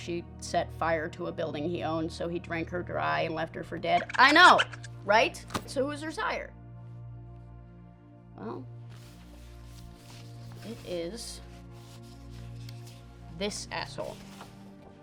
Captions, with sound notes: It seems she set fire to a building he owned, so he drank her dry and left her for dead. (squeaking) I know, right? So who was her sire? Well, it is this asshole, Carver.